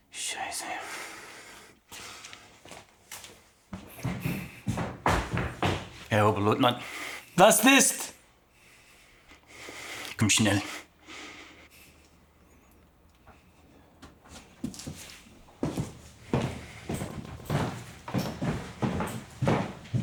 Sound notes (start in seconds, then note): 0.1 Koch speaking German; 7.4 Siegmund speaking German